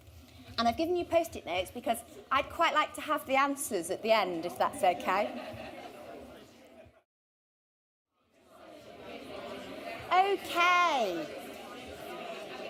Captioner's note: audience talking